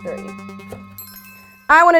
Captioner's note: suspenseful music; chimes dinging